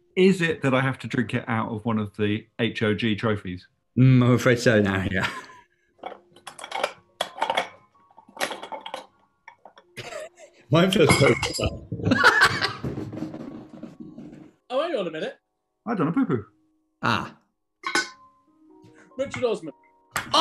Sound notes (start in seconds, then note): 11.1 crash; 12.0 laughing